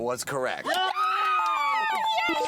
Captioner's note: bells ringing